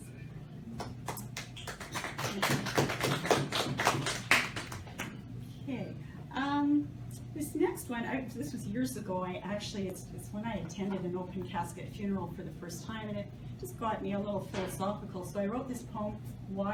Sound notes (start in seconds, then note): 0.8 applause